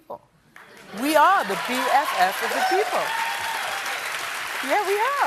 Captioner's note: applause